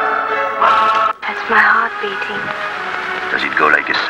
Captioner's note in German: Klicken